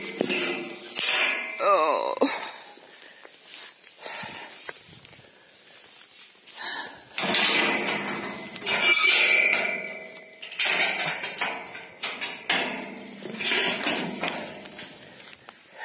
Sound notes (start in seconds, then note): 3.8 gate bangs